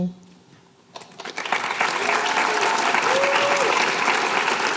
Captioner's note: applause